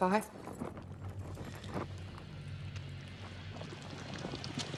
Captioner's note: monster sloshing